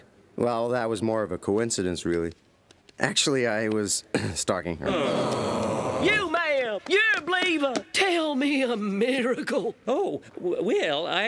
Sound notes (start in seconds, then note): 4.1 clears throat; 4.8 audience groans